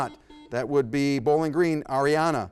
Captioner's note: buzzer buzzes